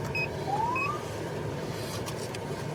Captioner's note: siren chirps